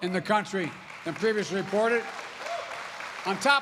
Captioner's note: applause